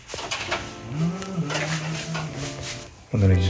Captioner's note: joyful humming